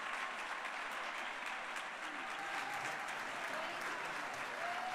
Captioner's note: people chattering